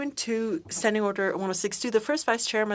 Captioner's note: speaking French